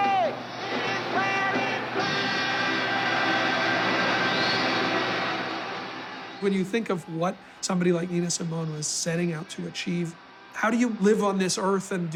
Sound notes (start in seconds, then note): 4.3 audience cheering